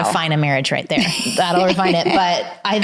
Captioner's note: laughs